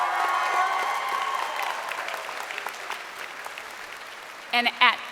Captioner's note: crowd cheering